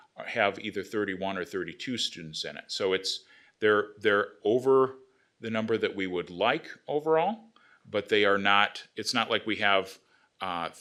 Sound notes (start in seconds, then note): none